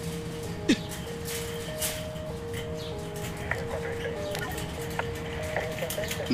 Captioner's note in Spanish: Sollozos